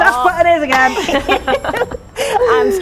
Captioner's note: laughing